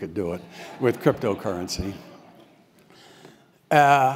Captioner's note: laugh